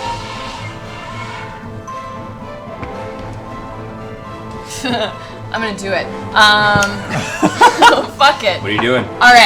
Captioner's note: laughs